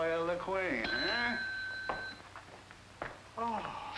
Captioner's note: bell ringing